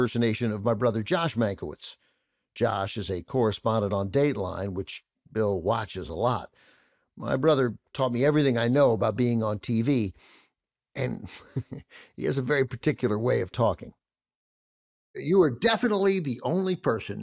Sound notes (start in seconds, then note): 11.0 chuckles